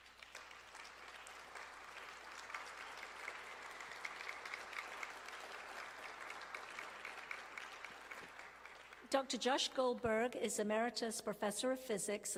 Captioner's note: applause